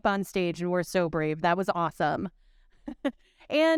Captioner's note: chuckles